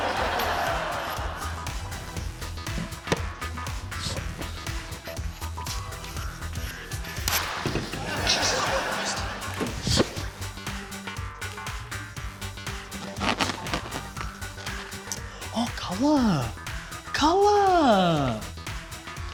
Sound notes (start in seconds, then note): 0.0 laughter; 7.2 pop!